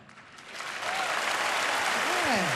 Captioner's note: applause